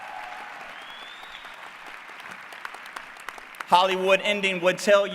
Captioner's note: applause